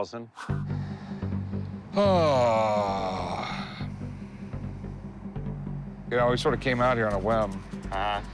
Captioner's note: heavy sigh